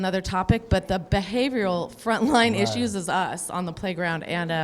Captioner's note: laughs